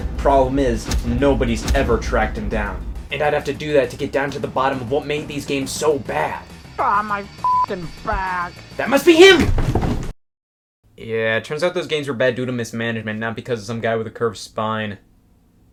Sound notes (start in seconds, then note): 6.7 beep; 9.4 furniture scrapping